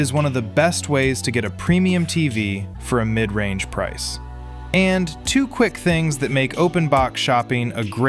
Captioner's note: thoughtful